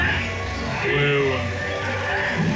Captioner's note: flatly